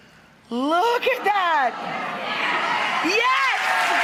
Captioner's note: audience cheering; audience applauding